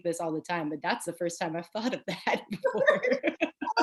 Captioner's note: laughing